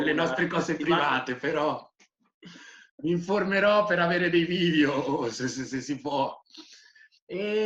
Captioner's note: laughing